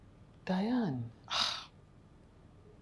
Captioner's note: scoffs